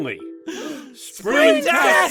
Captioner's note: gasps!